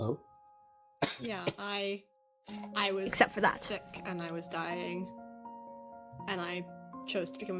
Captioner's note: STONE coughs